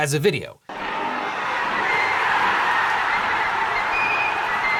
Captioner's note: audience cheering